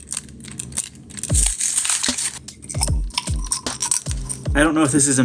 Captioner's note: plastic rattles; screws rattle inside the camera; package tears open